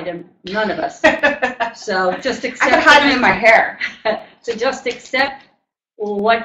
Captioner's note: laughter